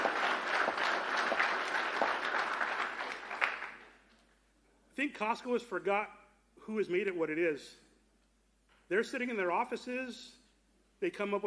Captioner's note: applause